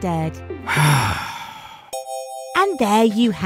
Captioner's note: narrator sighs